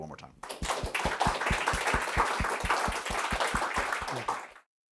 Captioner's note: applause